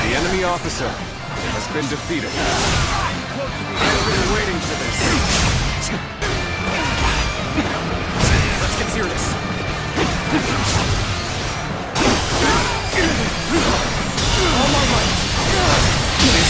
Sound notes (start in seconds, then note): 3.4 dramatic music; 3.4 weapons clashing